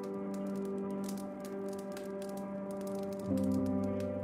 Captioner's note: fire crackling